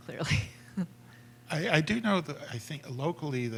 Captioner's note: laughter